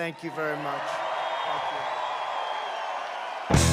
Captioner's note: applause